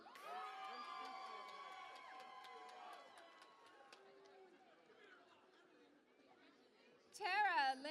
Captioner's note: cheering and Applause